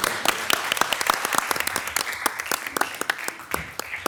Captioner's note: all applauding